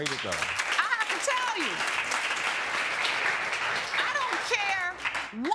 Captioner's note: audience applauding